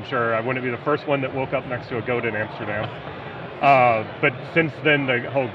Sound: laughing

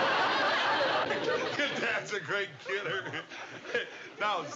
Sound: laughs

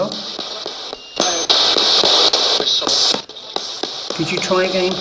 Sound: radio babbles

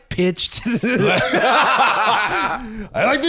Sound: both laughing

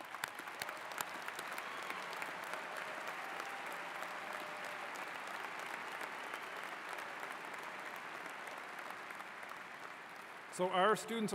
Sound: applause

